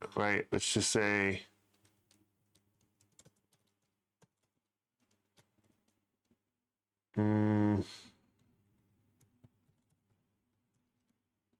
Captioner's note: typing